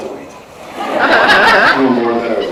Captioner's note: laughs